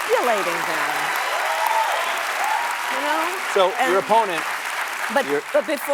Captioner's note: applause